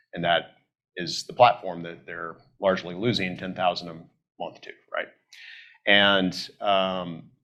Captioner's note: none